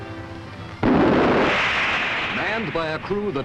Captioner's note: missile firing